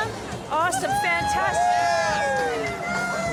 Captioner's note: cheering